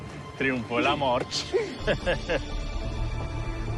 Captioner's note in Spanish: Risas